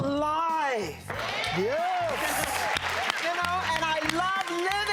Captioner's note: audience applauding